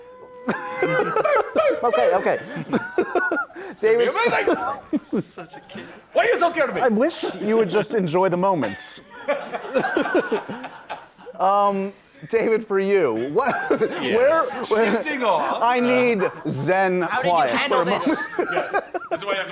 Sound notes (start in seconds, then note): 3.9 Zachary yells